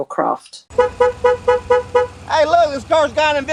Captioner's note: horn honking